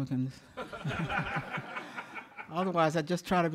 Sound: audience laughing

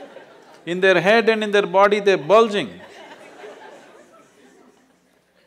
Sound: laughter; laughter

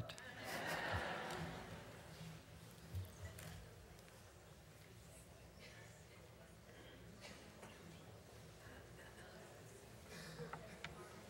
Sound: laughter

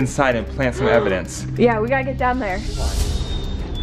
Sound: gasps

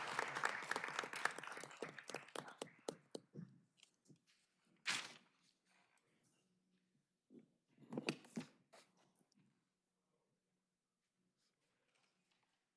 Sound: applause

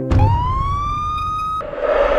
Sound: sirens

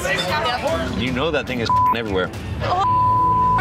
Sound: beep

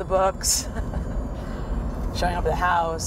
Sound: laughs

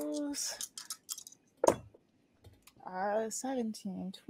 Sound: dice clacking

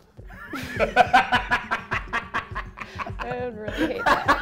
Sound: laughs

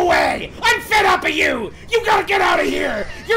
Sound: laughs

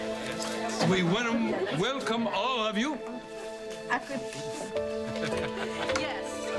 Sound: laughter

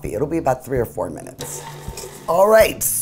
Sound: mixer whirs

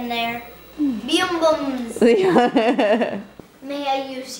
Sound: laughter

